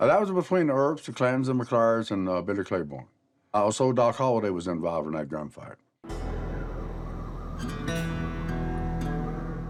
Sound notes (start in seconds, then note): 6.0 suspenseful music; 6.1 wind whistling